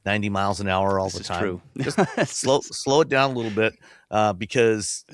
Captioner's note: laughs